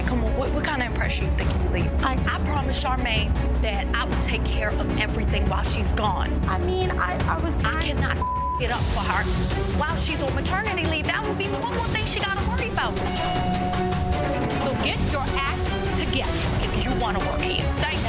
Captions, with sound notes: Come on, what kind of impression you think you're leaving? - I- - I promised Charmaine that I will take care of everything while she's gone. - I mean, I was- - I cannot (beep) it up for her while she's on maternity leave. That will be one more thing she gotta worry about. (tense dramatic music) So get your act together if you wanna work here.